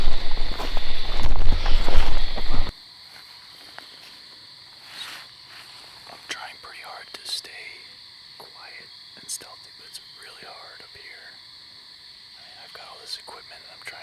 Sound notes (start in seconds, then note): 3.3 insects chirp